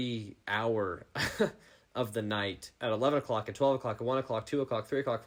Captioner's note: laughing